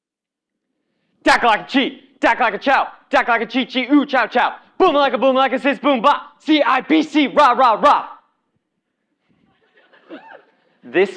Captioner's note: cheer